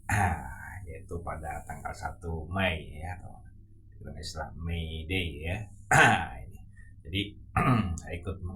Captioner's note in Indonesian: berdehem; berdehem